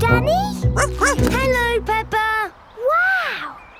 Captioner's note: snorts; barks